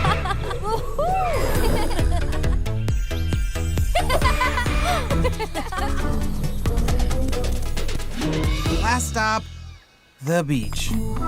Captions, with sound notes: [laughing] [laughing] Last stop, the beach.